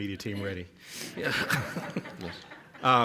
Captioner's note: laughing